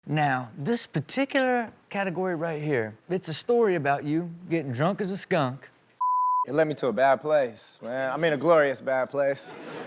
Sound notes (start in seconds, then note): 6.0 beep; 9.4 laughing in audience